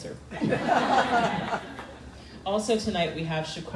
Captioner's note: crowd laughing